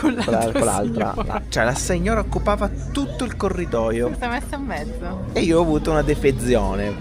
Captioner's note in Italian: risate